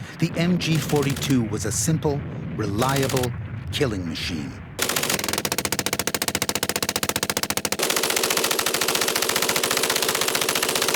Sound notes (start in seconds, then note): 4.7 machine gunfire